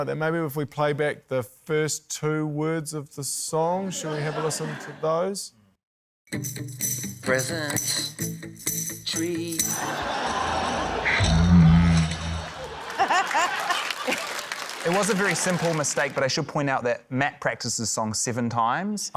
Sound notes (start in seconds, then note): 13.0 laughter, applause